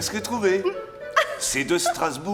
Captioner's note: men laughing